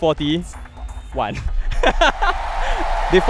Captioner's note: laughs